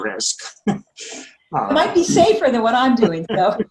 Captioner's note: laughing